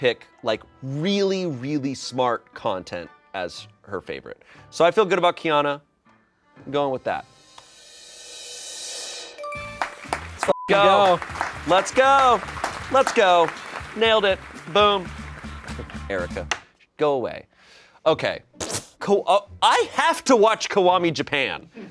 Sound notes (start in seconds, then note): 7.9 drum roll hisses; 9.4 bell chimes; 10.4 beep; 10.6 crew applauds